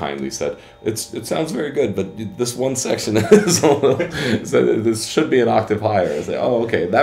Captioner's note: laughs